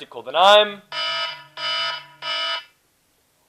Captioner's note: sirens